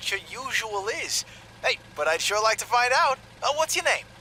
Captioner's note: cheerfully